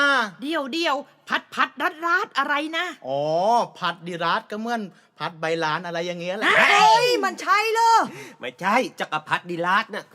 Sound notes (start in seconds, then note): 6.4 screams